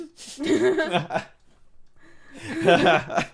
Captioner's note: laughing